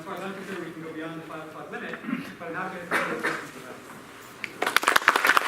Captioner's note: coughing; applause